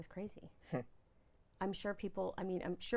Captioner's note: laughing